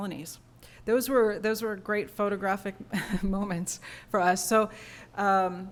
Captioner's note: laughter